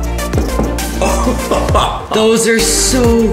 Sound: tapping; laughing

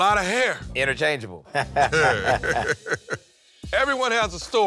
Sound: laughs

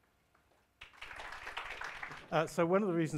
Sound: applause

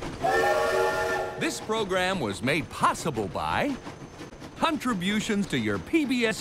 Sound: whistle blows

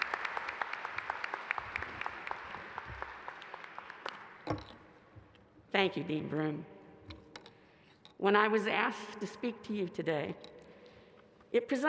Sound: applause

